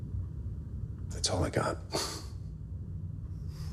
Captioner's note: chuckles softly